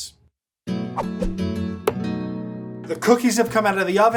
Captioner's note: air whooshing; upbeat music